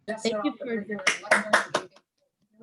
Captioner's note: applause